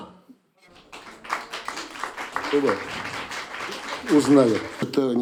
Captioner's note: applause